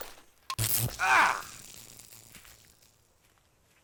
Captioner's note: buzz